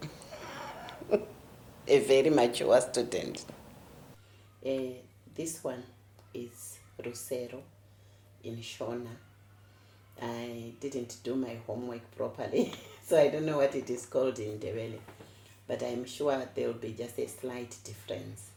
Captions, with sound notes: (Laughter) A very mature student. This one is Rusero, in Shona. I didn't do my homework properly - so I don't know what it is called in Ndebele. but i'm sure there will be just a slight difference.